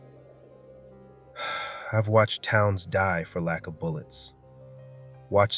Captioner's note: exhales